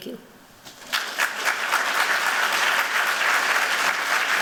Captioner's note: applause